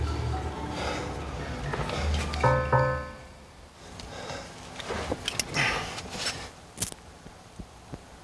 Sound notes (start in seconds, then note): 2.8 thudding